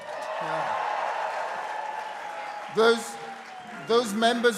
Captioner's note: crowd cheering